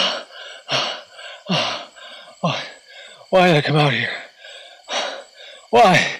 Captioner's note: gasping for breath